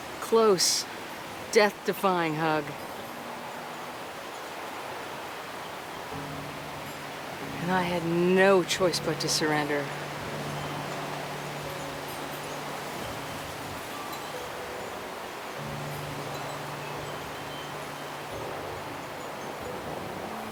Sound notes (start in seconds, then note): 10.3 piano music; 10.3 wind whooshing